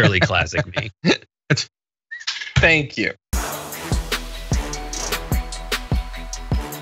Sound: laugh

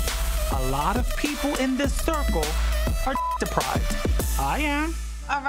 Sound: beep

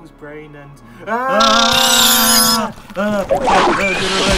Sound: both scream; monster high pitch snarl

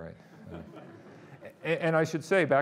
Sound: audience laughing

